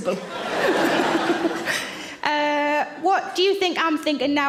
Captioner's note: audience laughs; Sarah laughs